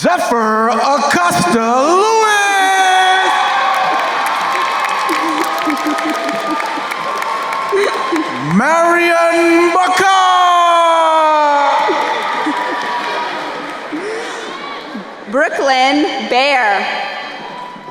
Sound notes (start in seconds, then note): 2.9 crowd cheering and applauding; 12.5 crowd cheering; 16.7 crowd cheering